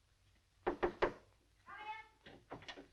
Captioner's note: knocking